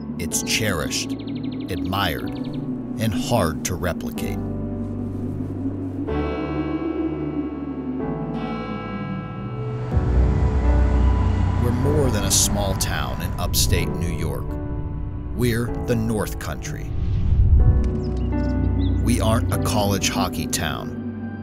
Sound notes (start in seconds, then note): 5.5 bell ringing; 5.5 gentle music; 17.8 gentle music; 17.8 birds chirping